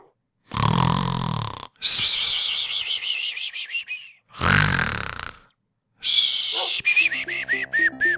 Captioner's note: snoring